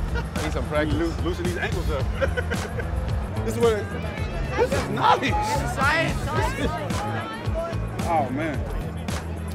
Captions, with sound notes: he needs some practice loosen these ankles up (laughs) this is where they? this is nice! oh man